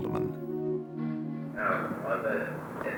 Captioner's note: audio recording playing